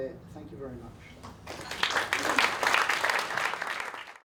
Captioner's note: audience applause